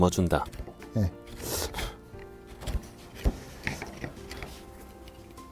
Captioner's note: chiseling sound